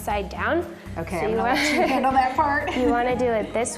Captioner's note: both laugh